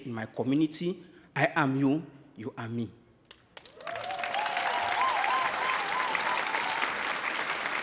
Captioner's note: audience applauding